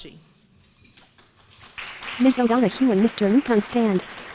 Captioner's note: applause